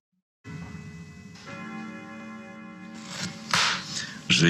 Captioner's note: the sound of bells ringing